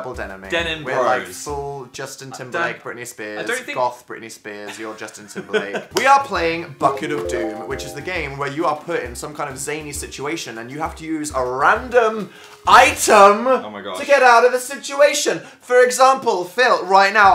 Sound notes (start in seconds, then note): 5.3 laughs; 12.0 elevated voice